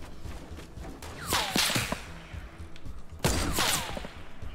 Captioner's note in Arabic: طلقات نارية